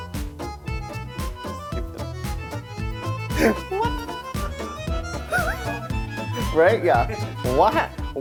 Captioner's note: laughs